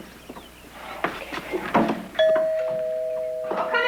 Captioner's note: doorbell rings